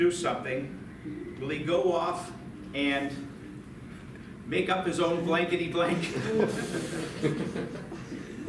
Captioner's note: light laughter